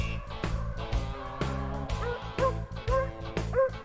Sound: dogs barking

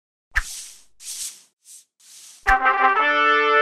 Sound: dry swishing noises; trumpet fanfare

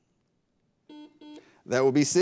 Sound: buzzer beeps

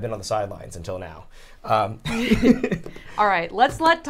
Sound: both laugh

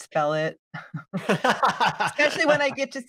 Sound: he laughs

